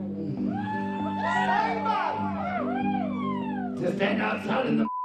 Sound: cheering

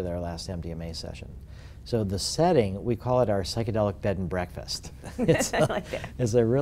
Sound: laugh

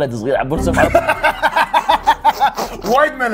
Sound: laughter

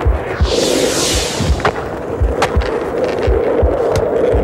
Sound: wind whooshing

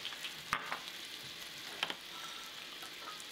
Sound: dishes clinking

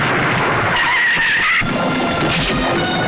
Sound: tire Screeching

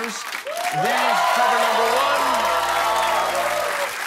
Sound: cheers and applause

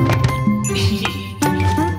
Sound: chuckles

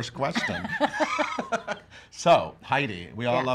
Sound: both laughing

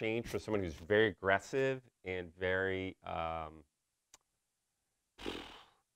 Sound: blows out air

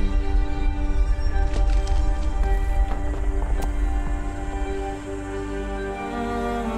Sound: dirt falling sounds

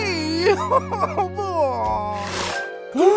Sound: sobbing; gasping

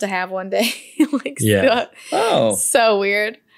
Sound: laughs

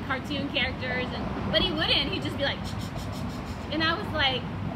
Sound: makes a scribbling noise

